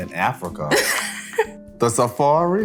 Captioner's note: Jordyn laughs